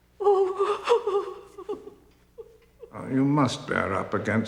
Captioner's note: woman sobs